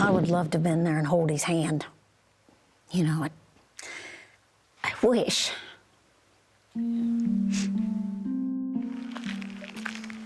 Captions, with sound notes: -I would love to have been there and hold his hand. You know? I wish. [ Sniffles ]